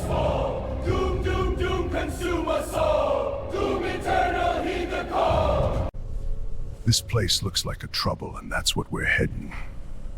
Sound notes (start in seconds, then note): none